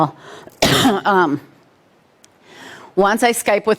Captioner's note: coughs